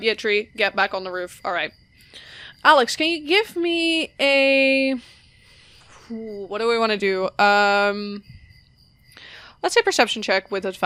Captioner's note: sighs